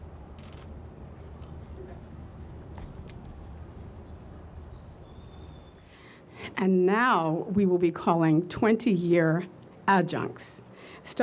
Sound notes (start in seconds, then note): 0.4 camera clicks